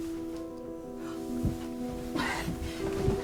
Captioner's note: gentle music; gasps